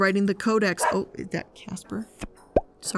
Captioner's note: dog barks